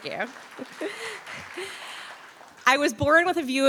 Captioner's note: audience applauding